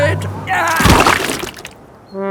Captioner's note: groans